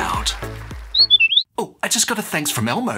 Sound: chirp

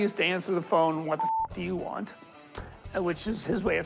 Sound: beep

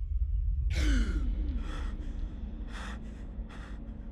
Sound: ominous music; male gasping

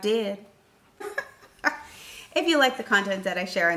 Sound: laughing

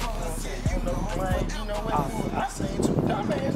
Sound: chatting

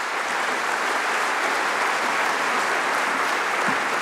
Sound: applause

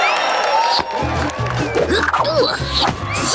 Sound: cheering; grunting

